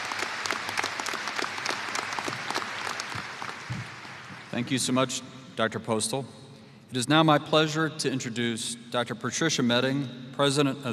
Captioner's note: applause